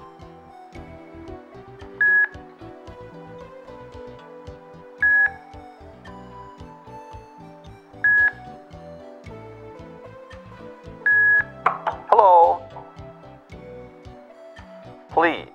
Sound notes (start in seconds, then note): 0.8 GoTalk beeps each time row lights up